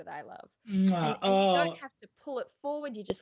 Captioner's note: smooches loudly